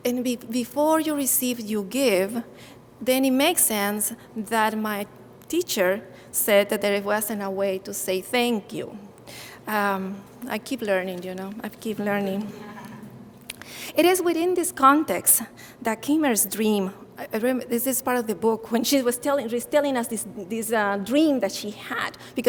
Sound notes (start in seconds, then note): 12.3 audience chuckling